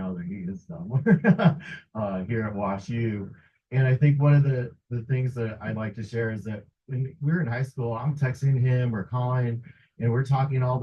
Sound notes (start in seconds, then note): 0.7 chuckles